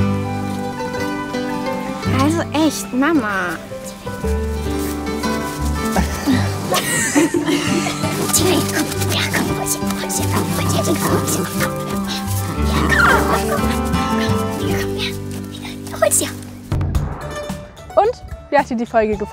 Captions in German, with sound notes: Also echt, Mama! Tinka, komm! Ja, komm. Hol's dir, komm. Hol's dir, komm. (Freudiges Winseln) Komm, hier. Hol's dir. (Heitere Musik)